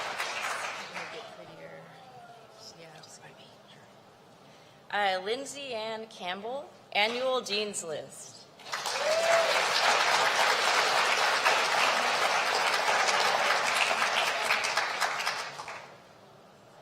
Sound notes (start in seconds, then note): 11.7 applause